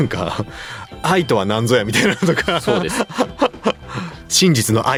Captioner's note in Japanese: 笑い